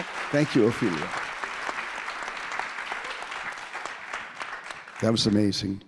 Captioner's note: audience applauding continues